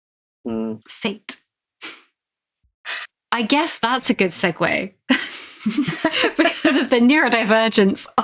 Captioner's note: laughs